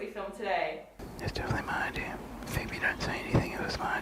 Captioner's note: whispers